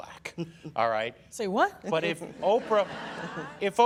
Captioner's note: laughter